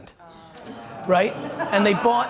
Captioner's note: crowd groans